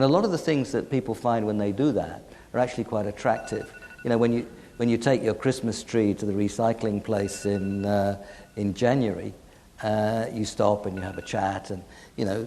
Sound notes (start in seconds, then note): 3.2 beeps; 9.7 beeps